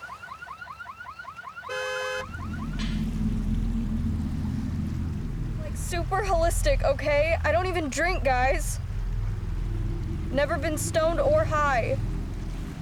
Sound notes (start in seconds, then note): 2.6 wind blows; 9.2 ominous music